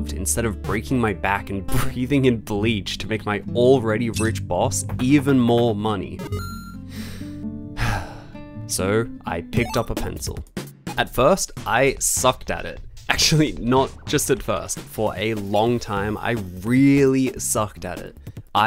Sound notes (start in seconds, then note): 7.7 sigh